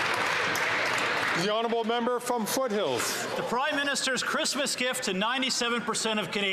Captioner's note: applause